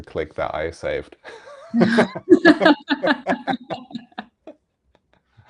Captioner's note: laughing